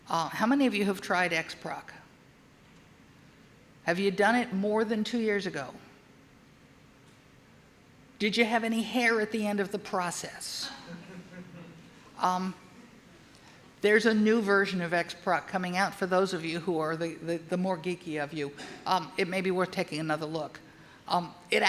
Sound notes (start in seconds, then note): 10.8 audience laughing